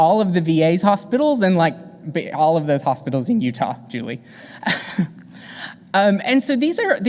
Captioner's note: chuckles